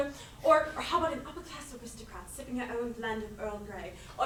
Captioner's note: none